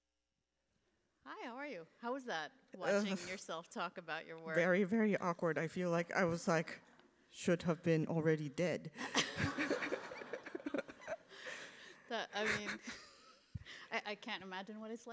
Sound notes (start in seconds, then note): 8.9 laughter